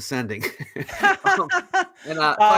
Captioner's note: laughing